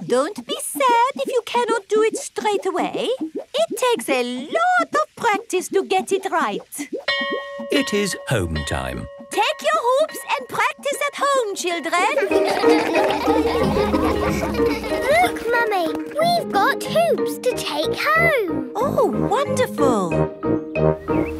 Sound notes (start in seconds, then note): 7.1 bell rings; 12.1 all laugh